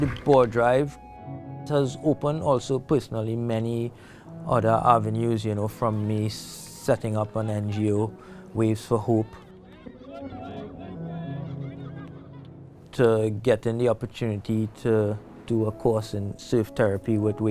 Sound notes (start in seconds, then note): 8.5 people chattering